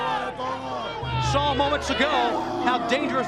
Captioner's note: crowd chatter